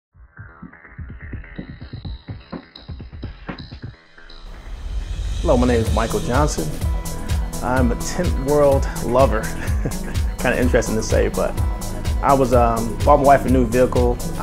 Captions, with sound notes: (upbeat music) - Hello, my name is Michael Johnson. I'm a Tint World lover. (laughs) Kind of interesting to say, but I bought my wife a new vehicle.